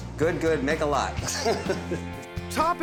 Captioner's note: laughing